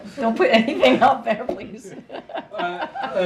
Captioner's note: laughs